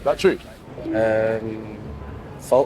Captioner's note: scoreboard beeps